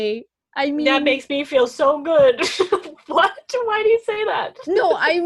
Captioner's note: laughs